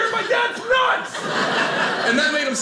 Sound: audience laughing

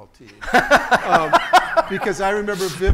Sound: laughing

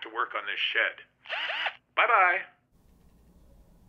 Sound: drilling

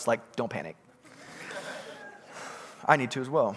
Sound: congregants laughing

